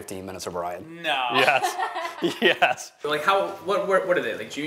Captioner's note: laughs